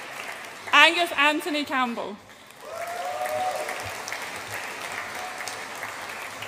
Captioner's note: audience applauds and cheers